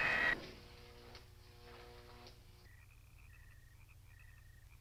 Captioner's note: door whirring